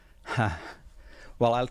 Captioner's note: chuckling